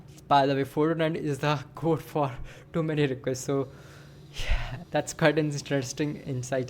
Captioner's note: sighs and gasps